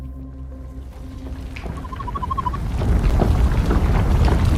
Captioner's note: ground rumbling